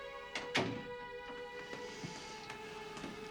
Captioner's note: door thudding